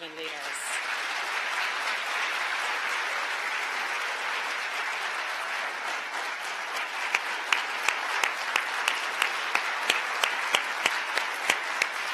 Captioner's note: applause